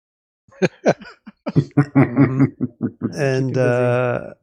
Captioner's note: laughing